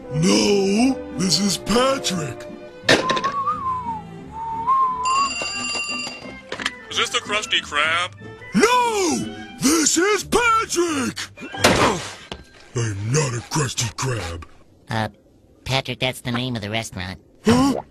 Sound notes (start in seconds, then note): 2.9 whistling again; 5.0 phone rings the third time